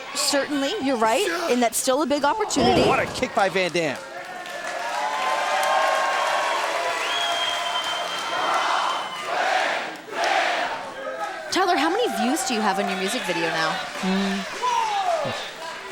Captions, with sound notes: Certainly, you're right. And that's still a big opportunity. Oh, what a kick by Van Dam. (crowd cheering) Rob Van Dam! Tyler, how many views do you have on your music video now?